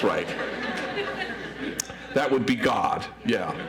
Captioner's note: audience laughs